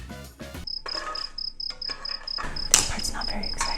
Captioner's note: crickets chirping